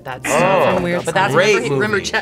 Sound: buzzer razzing

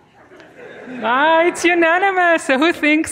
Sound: students murmuring

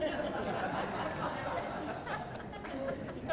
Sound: laughter

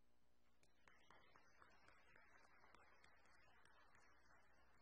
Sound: audience applauding

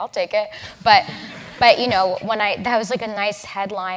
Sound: laugh

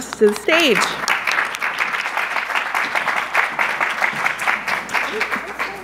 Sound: audience applauding

